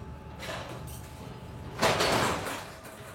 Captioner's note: clacking